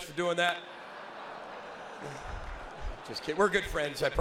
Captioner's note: audience laughs